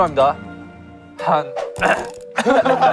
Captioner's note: ahem